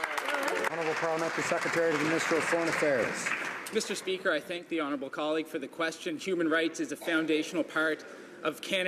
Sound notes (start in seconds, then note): 2.8 some Applause